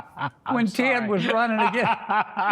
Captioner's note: laughter